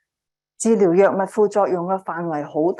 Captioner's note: speaking chinese